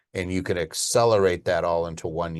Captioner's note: none